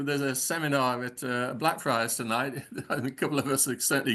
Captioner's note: laughs